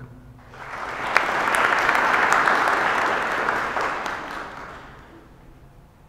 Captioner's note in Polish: oklaski